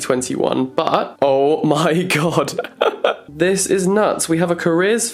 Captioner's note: laughs